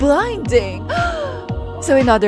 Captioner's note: gasp